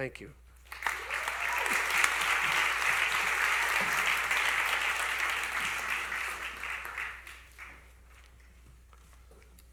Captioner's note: applause